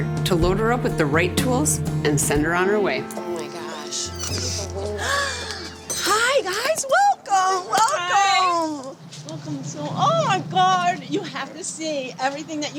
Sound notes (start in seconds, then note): 4.9 gasps